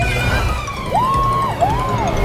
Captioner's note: yelling